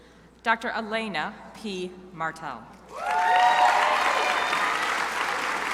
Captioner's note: crowd applauding